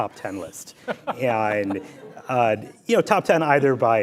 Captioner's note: laughs